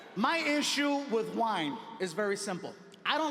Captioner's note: none